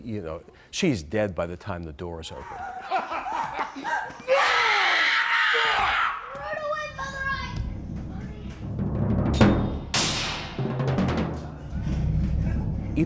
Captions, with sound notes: And, you know, she's dead by the time the door is opened. (laughing maniacally) (Miss Macduff shrieking) Run away, mother, I (murmuring). (drums ominously banging)